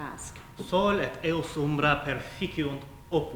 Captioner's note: speaking latin